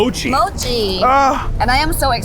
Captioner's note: grunting